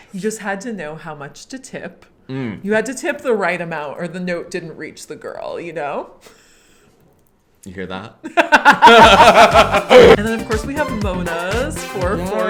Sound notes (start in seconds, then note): 8.3 both laugh; 8.8 upbeat music